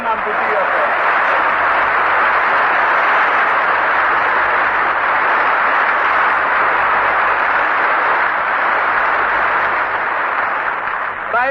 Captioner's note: applause